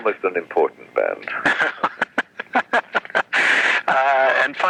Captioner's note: laughs